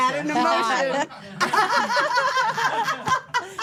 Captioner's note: laughs